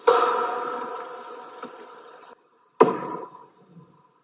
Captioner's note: loud knocks thudding